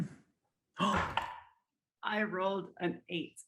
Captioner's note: Zylthyra gasps